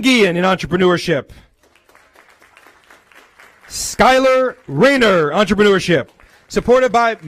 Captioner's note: applause